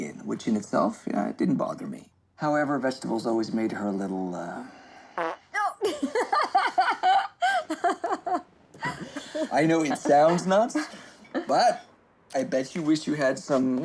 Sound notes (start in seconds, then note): 5.1 farting noise; 6.1 laughing